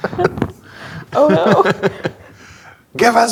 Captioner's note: laughing